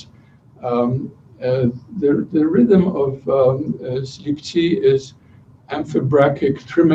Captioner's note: non-english speech